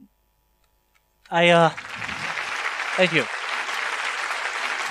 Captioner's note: applause